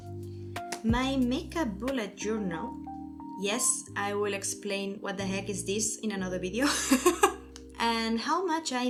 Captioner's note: laughs